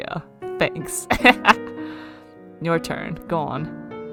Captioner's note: laughs